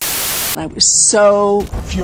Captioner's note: static